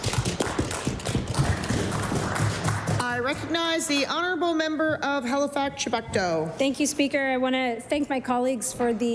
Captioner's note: applause